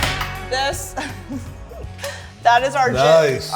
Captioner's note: giggling